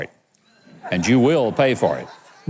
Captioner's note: audience laughs